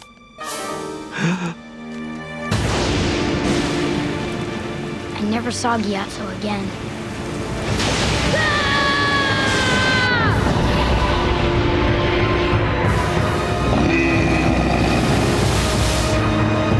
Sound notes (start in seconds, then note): 1.2 gasping; 2.6 thundering; 8.2 screaming; 12.9 grunting